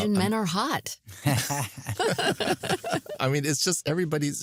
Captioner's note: laughter